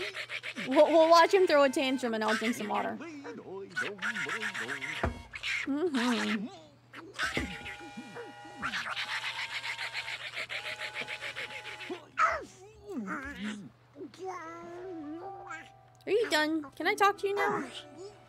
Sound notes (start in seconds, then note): 0.0 Donald continues yelling, Goofy starts humming; 12.8 angry Grumblings